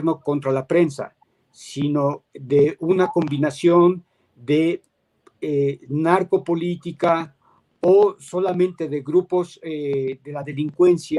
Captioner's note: speaking in Spanish